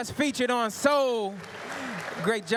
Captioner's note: applause